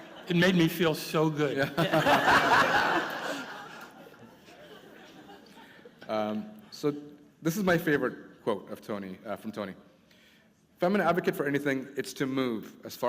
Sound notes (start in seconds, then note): 4.2 laughter